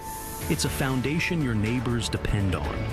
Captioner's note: glitching audio